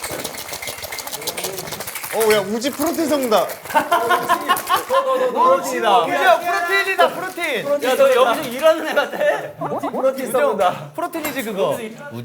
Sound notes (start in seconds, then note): 3.6 laughing